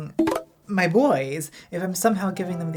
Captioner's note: Grindr notification